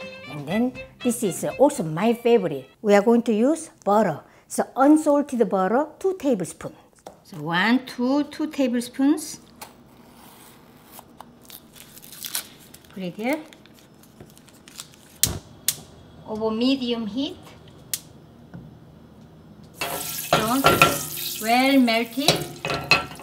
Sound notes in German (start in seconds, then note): 19.8 Knistern der Butter